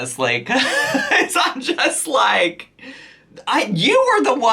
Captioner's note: laughs